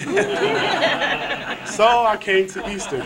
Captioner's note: laughter